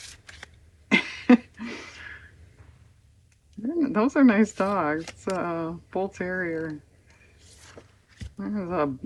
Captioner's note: laughs